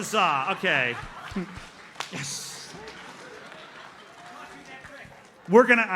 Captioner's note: audience laughs